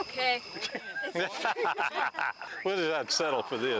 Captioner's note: all laughing